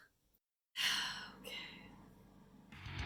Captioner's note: sigh